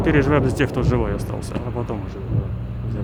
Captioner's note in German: Detonation